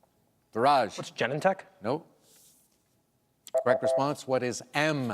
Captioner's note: beep